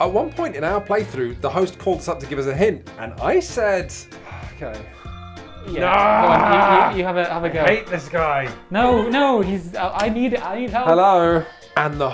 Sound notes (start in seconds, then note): 5.6 yells